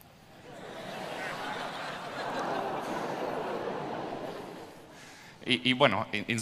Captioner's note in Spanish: Risas